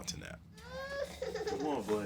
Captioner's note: crying